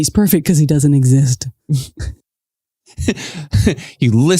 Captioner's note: chuckles